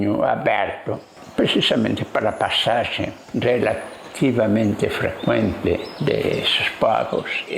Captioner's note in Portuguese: som de pássaros